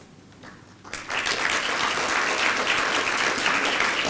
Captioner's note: applause